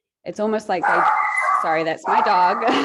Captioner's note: dog barking